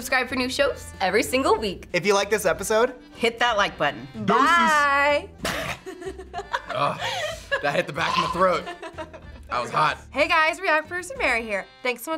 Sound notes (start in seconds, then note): 5.6 laughs; 6.4 gags